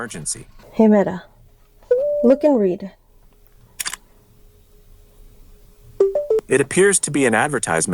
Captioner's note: camera click sound